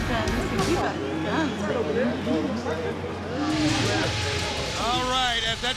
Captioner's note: people chattering indistinctly